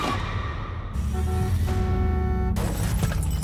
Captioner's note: loud crash; glass shatters; vehicle honks